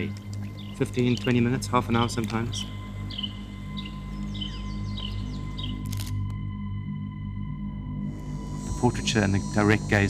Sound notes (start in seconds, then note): 2.6 birds twittering; 5.8 camera clicks